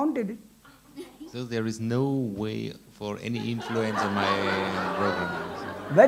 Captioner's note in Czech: smích